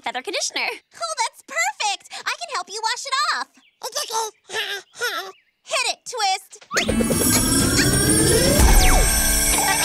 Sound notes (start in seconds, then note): 6.8 whirring and whooshing; 9.6 pow!